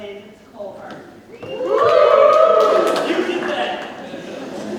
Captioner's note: audience cheers